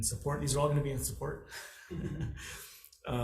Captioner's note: laughs